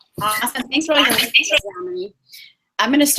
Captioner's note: audio becomes choppy